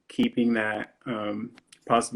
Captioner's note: none